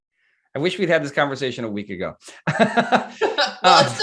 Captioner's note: laughs